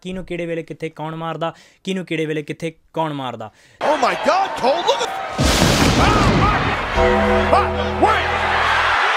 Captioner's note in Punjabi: ਤਾੜੀਆਂ